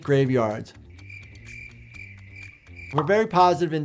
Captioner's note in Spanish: insectos chirriando